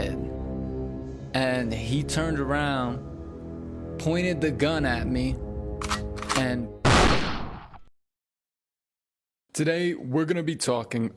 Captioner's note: boom